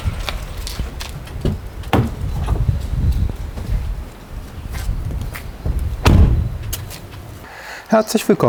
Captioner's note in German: ein Auto hält an, die Tür wird geöffnet und geschlossen